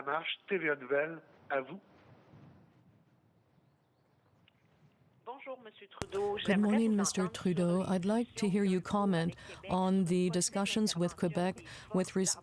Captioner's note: speaking french